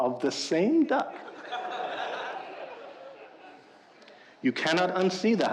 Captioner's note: audience laughing